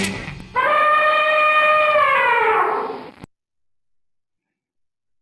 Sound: elephant trumpeting

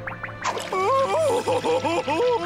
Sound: crying

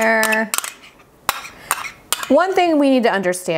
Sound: spoon clinking

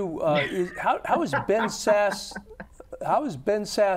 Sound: laughs

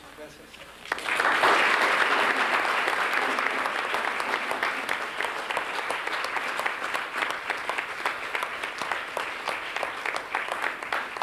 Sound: applause

